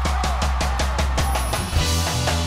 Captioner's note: cheers and applause